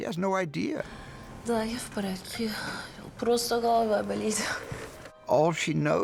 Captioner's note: speaking Russian